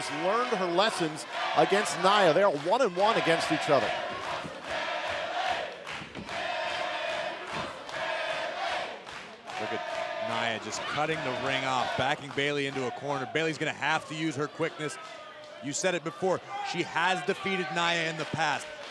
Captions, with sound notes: HER LESSONS AGAINST NIA. THEY ARE ONE-ONE-ONE AGAINST EACH OTHER. >> [CROWD CHEERING] >> LOOK AT NIA, JUST CUTTING THE RING OFF, BACKING BAYLEY INTO A CORNER, BAYLEY'S GONNA HAVE TO USE HER QUICKNESS. YOU SAID IT BEFORE, SHE HAS DEFEATED NIA IN THE PAST, BUT